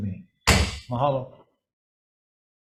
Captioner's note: gavel clinking